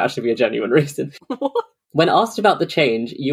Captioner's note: laughing